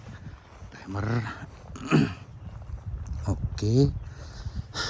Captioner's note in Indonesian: berdehem